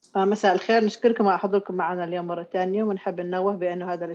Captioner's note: speaks in Arabic